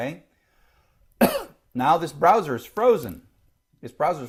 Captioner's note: cough